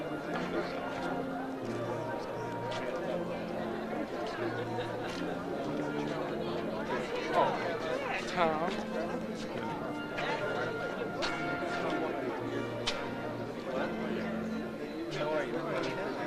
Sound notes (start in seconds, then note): 9.6 overlapping chatter; 9.6 slow baroque music